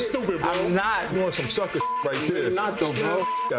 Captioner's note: beep